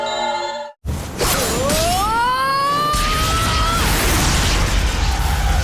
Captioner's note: war cry